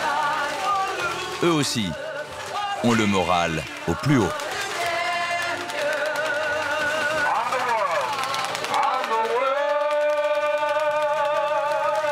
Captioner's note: applause; applause